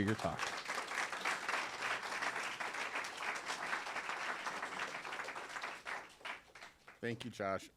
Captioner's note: applause